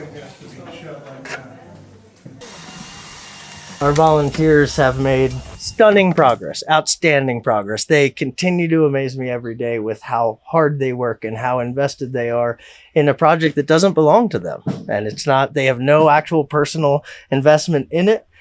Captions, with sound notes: (tools buzz) - Our volunteers have made stunning progress, outstanding progress. They continue to amaze me every day with how hard they work and how invested they are in a project that doesn't belong to them. They have no actual personal investment in it, but they give their all to it,